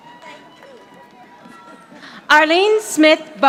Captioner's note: audience applauding